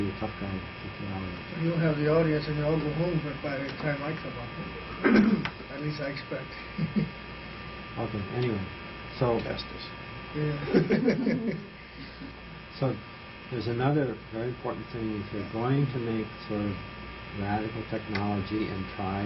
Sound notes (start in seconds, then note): 7.7 laughter